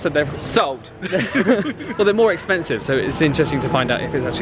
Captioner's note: both laugh